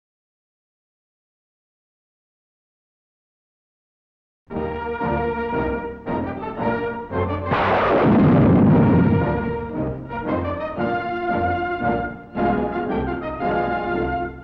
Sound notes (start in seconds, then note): 4.7 dramatic music; 7.5 laser fires